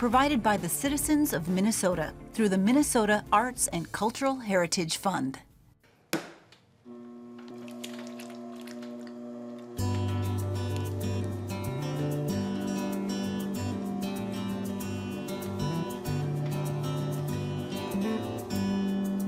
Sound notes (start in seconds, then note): 6.1 clay plops